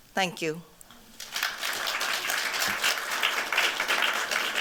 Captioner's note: applause